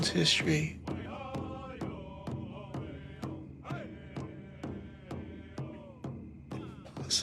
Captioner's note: drums beating; voices chant